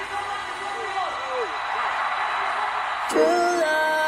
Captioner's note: crowd cheering